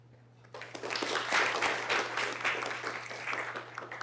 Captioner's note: applause